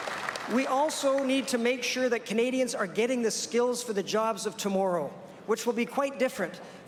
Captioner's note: applause